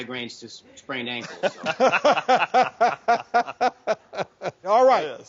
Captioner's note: doctors laughing